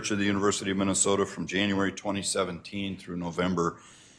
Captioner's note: none